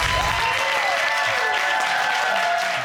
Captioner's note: audience applauding